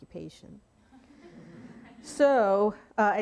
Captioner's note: audience laughing